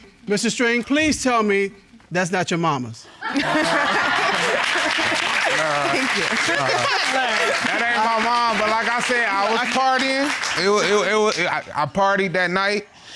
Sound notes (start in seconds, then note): 3.3 laughing